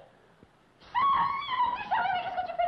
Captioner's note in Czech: mluví francouzsky